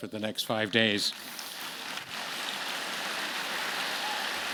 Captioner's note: audience clapping